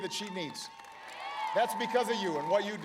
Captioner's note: applause